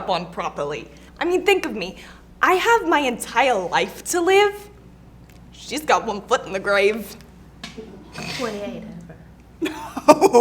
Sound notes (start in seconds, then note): 6.8 front row laughs